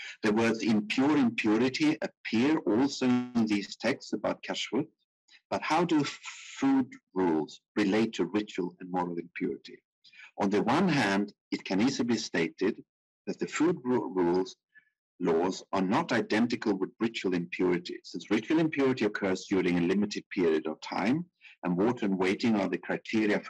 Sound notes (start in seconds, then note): 4.4 speaking in foreign language